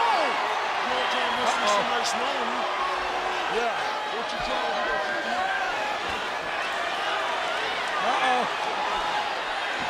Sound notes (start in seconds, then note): 2.6 crowd chattering